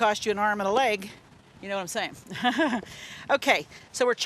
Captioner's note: laughs